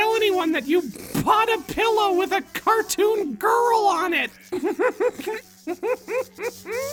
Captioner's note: laughing